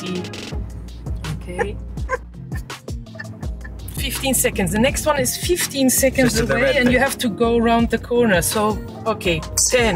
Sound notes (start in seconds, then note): 3.1 sniggering